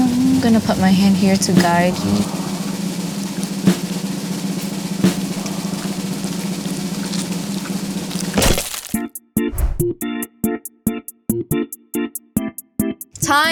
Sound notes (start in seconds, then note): 2.4 drum roll continues; 8.5 sticks crunch; 10.0 funky organ music